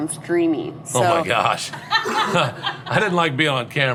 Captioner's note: laughing